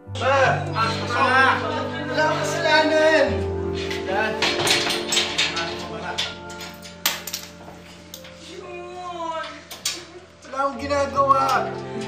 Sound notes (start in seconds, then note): 3.8 metal clanking